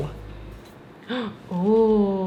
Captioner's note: gasp